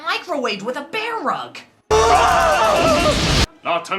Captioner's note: Shaggy and Scooby both scream in fear